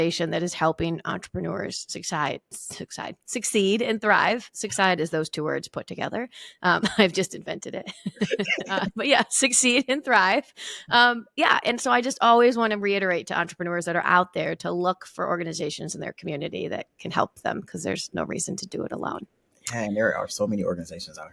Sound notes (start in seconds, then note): 7.9 laughing